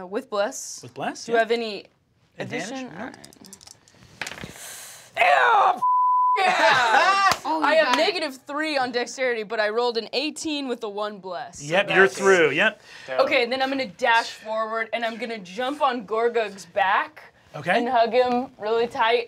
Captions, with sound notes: - With Bless? - With Bless. - Do I have any addition? - Advantage, nope. - All right. (die clatters) Yeah (beep) yeah! I have negative three on dexterity, but I rolled an 18 with a one bless. - Yep, you're through. - Then I'm gonna dash forward and I'm gonna jump on Gorgug's back and hug him really tight